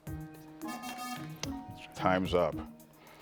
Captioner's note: bell dinging